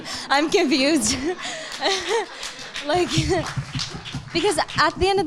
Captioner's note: audience laughing